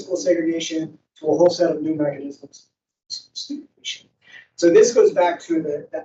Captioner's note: microphone cuts out